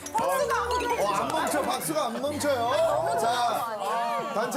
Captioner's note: infinite applause